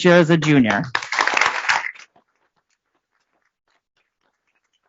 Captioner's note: applause